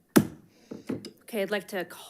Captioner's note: gavel bangs